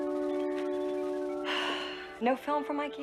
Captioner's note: sighs